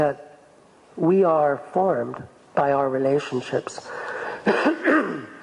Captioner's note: coughs